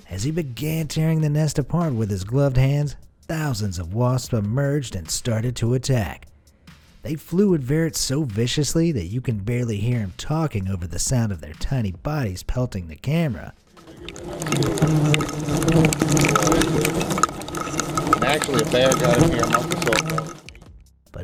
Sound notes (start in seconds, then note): 13.8 wasps tapping against camera; 13.8 buzzing